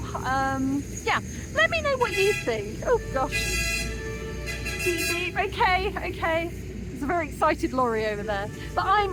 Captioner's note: loud horn; horn